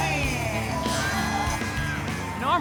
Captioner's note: crowd cheers